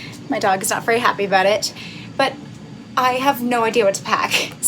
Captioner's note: none